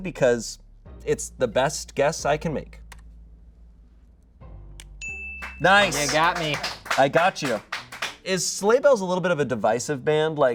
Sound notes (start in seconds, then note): 5.0 bell dings